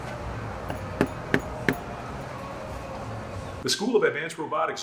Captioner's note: door clunking